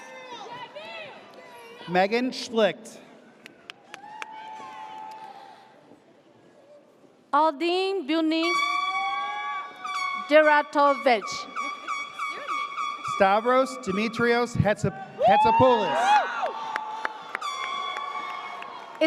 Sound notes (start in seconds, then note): 0.2 audience cheers; 3.9 audience cheers; 9.8 air horn blares; 11.8 air horn blaring; 15.1 audience cheers; 17.3 air horn blares